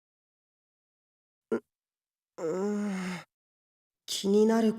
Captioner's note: thinking groans